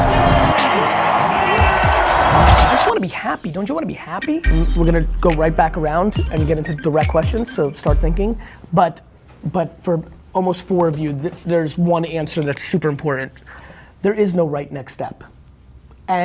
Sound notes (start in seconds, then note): 0.0 crowd cheering